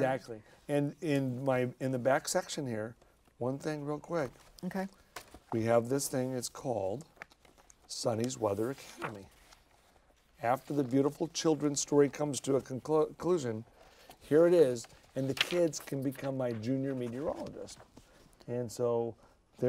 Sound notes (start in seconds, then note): none